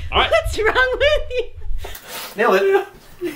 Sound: laughing

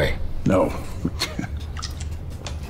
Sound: scoffs

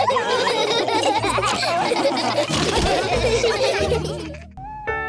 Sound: laughter

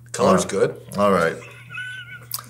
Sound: laughing

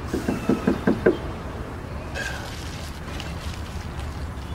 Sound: knocking on door

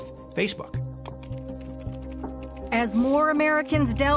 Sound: keys clicking

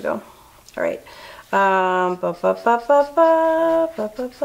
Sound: hums

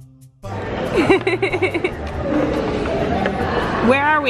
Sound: laughter

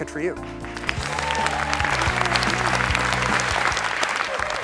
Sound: applause

